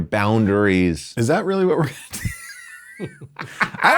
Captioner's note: laughs